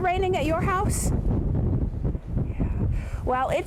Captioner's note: wind gushing